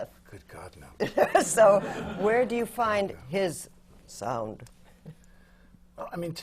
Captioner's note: laughter; lowers her voice